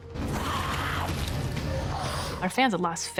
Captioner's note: zombies growling